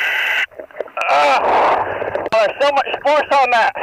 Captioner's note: groaning